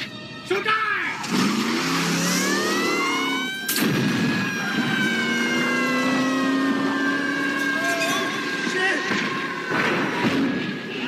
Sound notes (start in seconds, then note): 1.1 tires squealing; 2.2 siren blaring; 2.2 tires squealing; 3.5 siren blaring; 3.7 crash; 4.1 kyle screaming; 4.6 siren blaring; 5.1 engine revving; 5.1 siren blaring; 8.5 engine revving; 9.6 crash